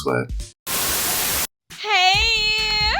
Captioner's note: Static